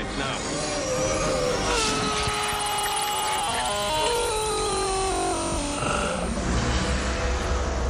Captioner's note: agonized scream